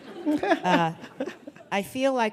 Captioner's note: audience laughing